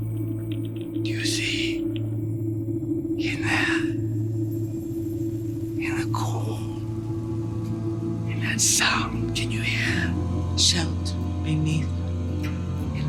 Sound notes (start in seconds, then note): 0.0 moves to dramatic music; 1.0 whispers